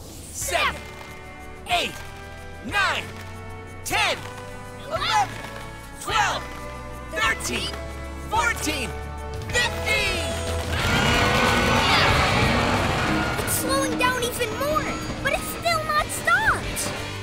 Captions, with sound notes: Seven, eight, nine, 10, 11, 12, 13, 14, 15! [grunting] It's slowing down even more, but it's still not stopped!